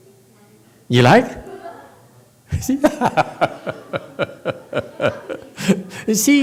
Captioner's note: laughs